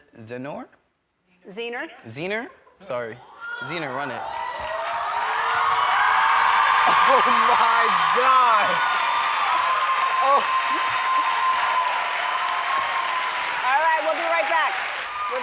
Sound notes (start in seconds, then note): 4.7 cheers, applause; 10.6 crying; 12.1 cheers, applause